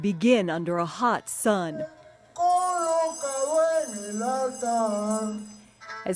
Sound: speaking in Spanish

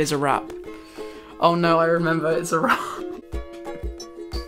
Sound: laughs

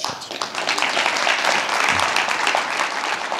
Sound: audience Applause

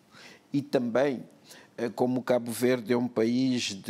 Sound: speaking portuguese

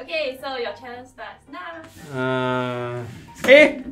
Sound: groaning

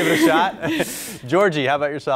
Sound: chuckles

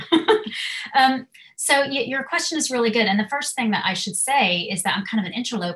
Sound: laugh

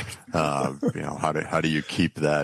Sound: laughs

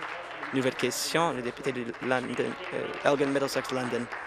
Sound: applause

